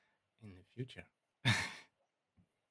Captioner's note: chuckles